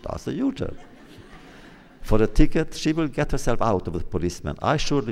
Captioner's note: laughter